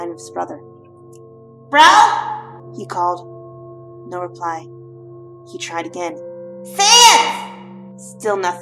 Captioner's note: dreamy echo